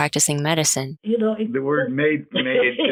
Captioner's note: laughs